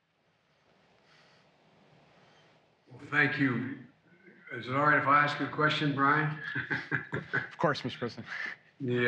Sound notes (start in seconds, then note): 6.0 laughs